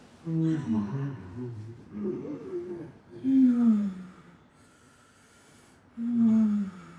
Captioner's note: moaning